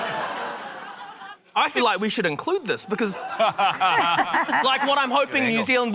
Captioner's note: laughter; guy laughs